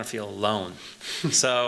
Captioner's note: laughter